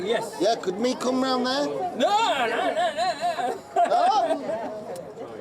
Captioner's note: laughs